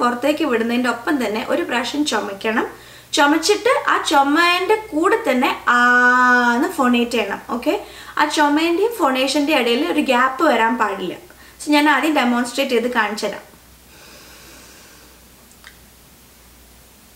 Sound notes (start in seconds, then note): 2.8 inhale